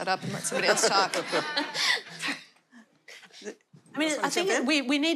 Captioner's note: laughter